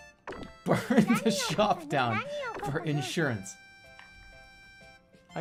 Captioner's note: bursts out laughing